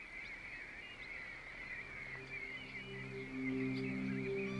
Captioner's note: birds shrieking; mysterious music